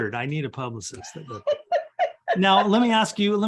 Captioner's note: laughs